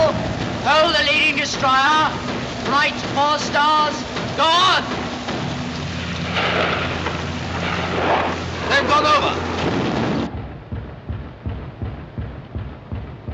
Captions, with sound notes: Hold the leading destroyer. Right, four stars. Go on! They've gone over. (Guns pound)